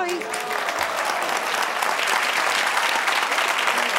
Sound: applause

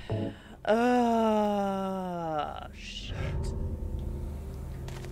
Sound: another overly dramatic long drawn out sigh

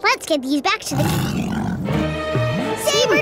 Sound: roaring

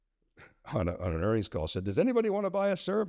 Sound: chuckles

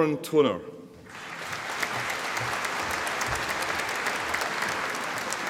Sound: audience applauding

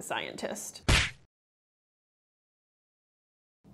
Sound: slap

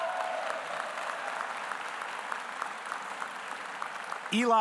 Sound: audience cheering; audience applauding

